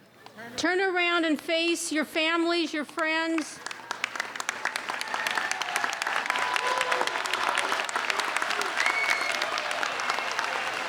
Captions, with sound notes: Turn around and face your families, your friends. (applauding)